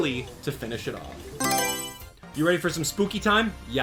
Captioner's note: Mario Selection Sound